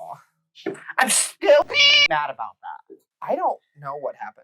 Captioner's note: meow